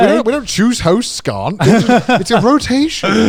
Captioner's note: laughing